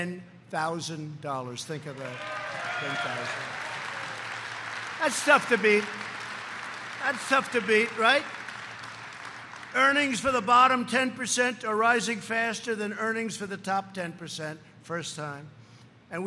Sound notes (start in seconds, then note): 2.4 applause